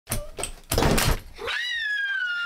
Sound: clicking; screams

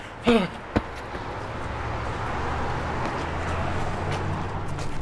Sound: feet shuffling on sidewalk

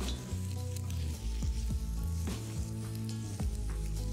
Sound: pot sizzling

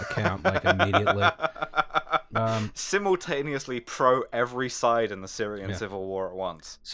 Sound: laughter

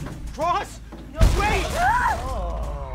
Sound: crash; air release/Jack screams

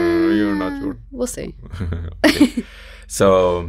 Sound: both laugh

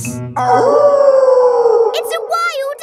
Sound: wolf howling loudly

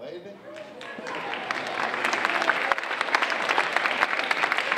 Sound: audience applauding

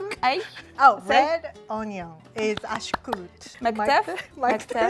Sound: speaking Amharic; speaking Amharic

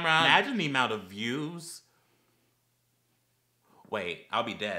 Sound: silence as rethinks his whole channel

